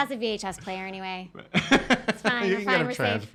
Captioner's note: laughing